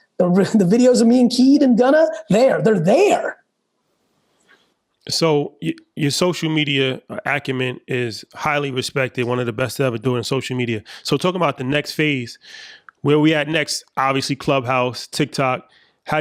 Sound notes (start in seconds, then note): none